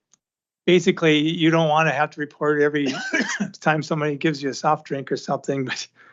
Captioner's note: laughter